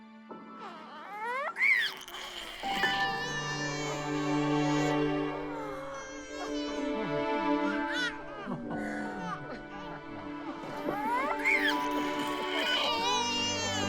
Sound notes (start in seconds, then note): 0.8 baby crying